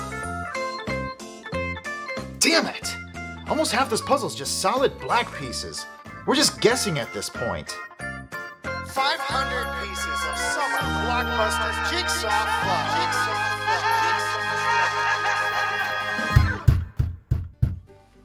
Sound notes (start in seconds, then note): 9.0 voiceover, echoing; 16.4 disgruntled postal knock